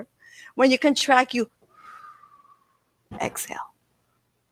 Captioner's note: breath whooshing